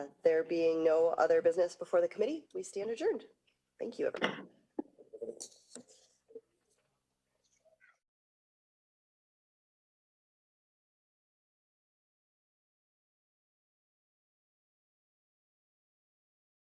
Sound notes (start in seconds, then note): 5.9 gavel